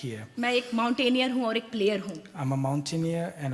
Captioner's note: speaks foreign language